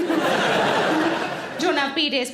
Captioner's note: audience laughing